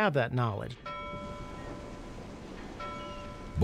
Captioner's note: bell ringing